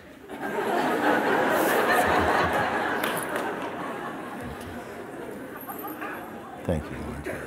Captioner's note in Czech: smích